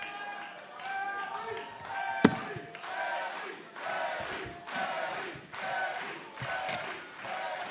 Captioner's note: cheers & boos; fans chanting